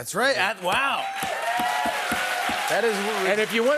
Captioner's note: cheers and applause